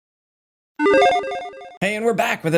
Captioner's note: logo beeping